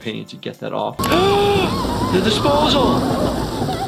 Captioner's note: gasps